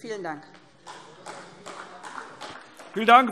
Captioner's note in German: Beifall SPD